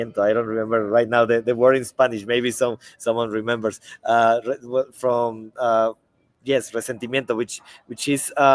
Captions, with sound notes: I don't remember right now the word in Spanish. Maybe someone remembers. From, yes, (speaks in Spanish), which is,